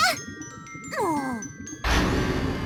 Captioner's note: shout; sigh